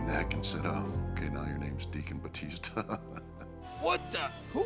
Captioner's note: laugh